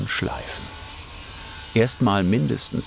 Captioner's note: grinding noise